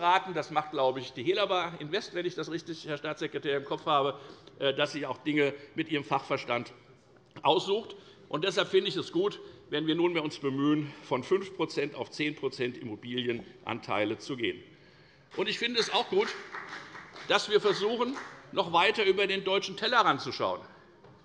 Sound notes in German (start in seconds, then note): 15.3 Beifall bei der FDP